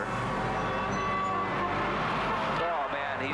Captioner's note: cars honking